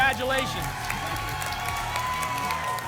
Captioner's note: applause and cheering